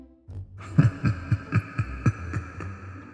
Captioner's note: laughter